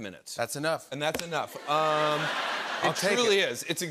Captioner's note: laughter